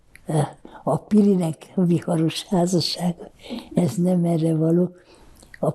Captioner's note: laughing